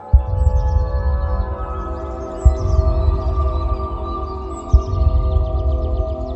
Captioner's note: soft thoughtful music; footsteps thudding